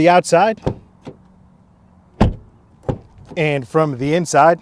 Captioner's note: door cranking and banging